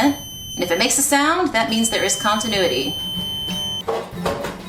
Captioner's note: audible high-pitched tone